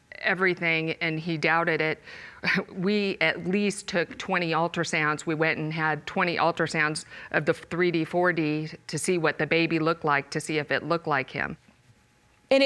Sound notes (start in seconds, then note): 2.5 sighs